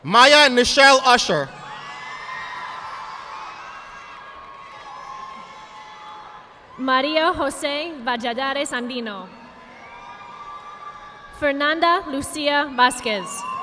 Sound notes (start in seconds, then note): 2.0 audience applauding; 9.5 audience applauding